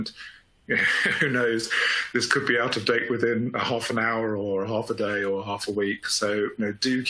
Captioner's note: laughs